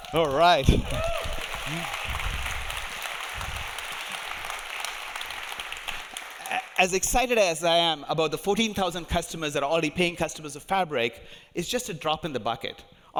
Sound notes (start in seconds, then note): 0.0 audience cheering; 0.0 audience applauding